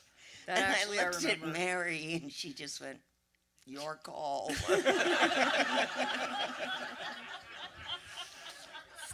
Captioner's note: audience laughter